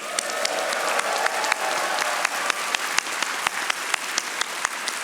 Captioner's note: audience applauding